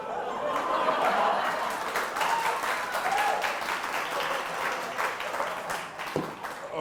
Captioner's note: audience applause